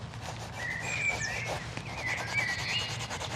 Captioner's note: idyllic bird chirping